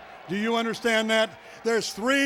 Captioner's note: none